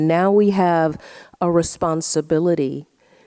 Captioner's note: none